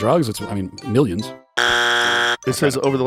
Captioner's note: buzzer